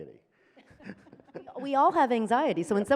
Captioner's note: chuckles